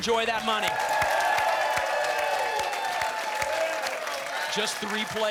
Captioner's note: applause